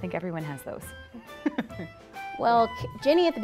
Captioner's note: laughter